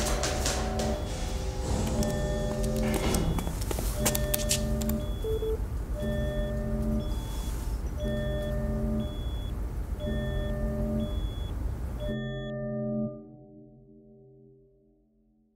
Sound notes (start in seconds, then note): 3.5 a near alarm; 13.7 silence